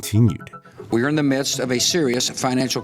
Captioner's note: soundbite of archived recording